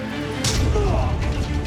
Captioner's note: men brawling